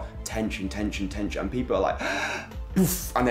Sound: gasps

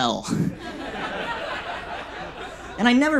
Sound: audience laughs

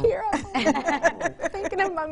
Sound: laughs

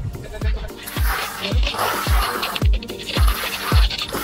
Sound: tool scraping

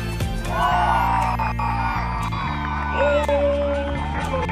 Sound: cheering

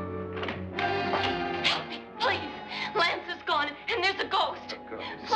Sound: ominous music; door bursts open

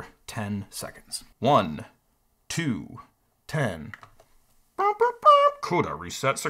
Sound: humming fanfare

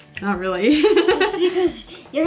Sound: laughs

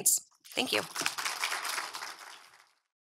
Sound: audience applauds

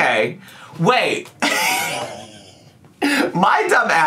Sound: laughs

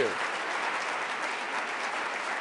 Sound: applause

